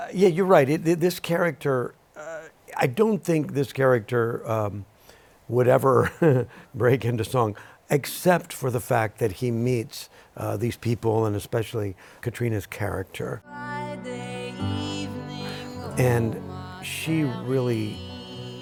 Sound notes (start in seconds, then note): 6.0 chuckles